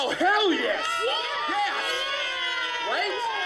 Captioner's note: cheering